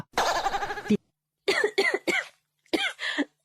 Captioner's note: coughs